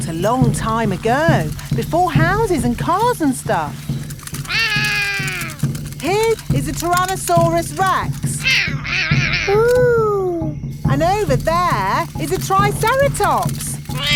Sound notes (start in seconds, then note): 4.5 roaring; 8.4 roaring; 13.9 laughs; 13.9 roars